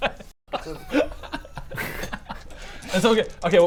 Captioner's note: heartless laughter